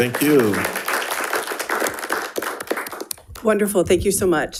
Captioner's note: all applauding